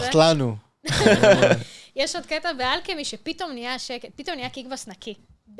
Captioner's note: laugh